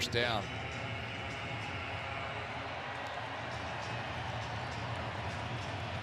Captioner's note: pa announcement